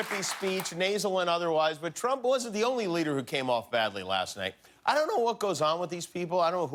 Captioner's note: cheers and applause